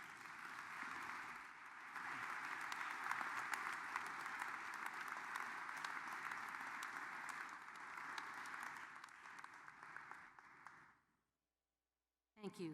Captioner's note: applause